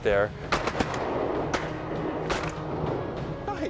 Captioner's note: gun shots